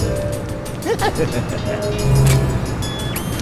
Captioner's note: laughter